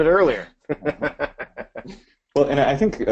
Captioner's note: laughs